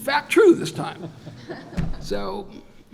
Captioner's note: laughter